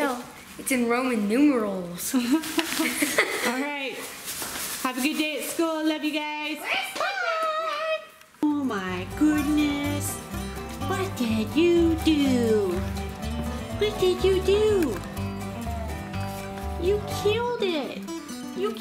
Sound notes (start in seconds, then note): 2.2 laughs; 9.8 fast banjo music